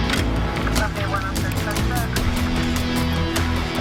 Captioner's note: garbled radio transmission